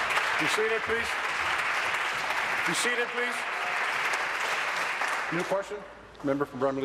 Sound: applause

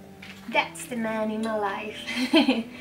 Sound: laughs

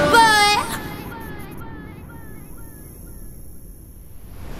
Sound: boy echoes repeatedly; swooshing sound

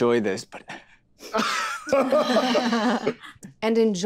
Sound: group laughs nervously

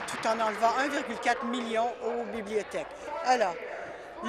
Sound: applause

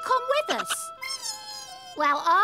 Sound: wee!

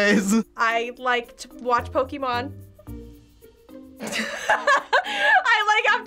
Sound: laughs

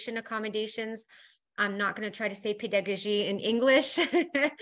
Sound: speaking foreign language

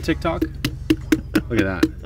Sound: hand smacking watermelon

